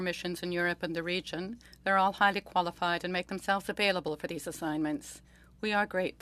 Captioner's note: speaking French